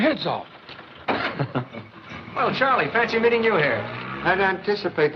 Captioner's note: chuckles